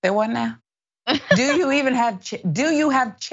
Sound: laugh

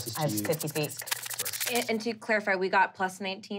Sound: skittering

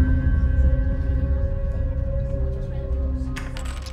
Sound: indistinct chatter

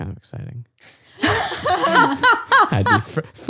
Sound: laughs

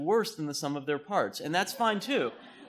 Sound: laughter

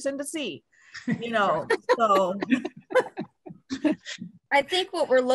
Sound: group laughing

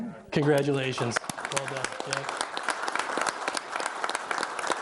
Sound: audience applauding

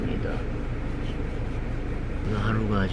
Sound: scratching

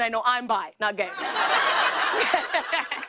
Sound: laughter

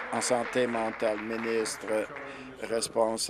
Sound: applause

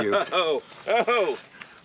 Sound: Conan laughs

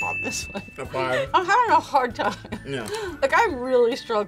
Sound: laughs

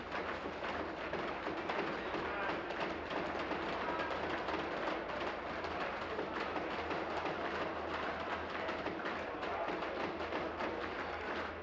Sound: applause

